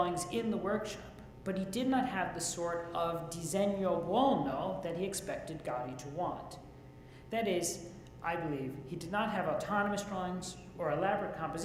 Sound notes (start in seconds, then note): 3.2 speaks Italian